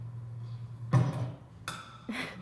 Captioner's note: bang